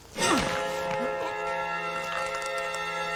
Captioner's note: choking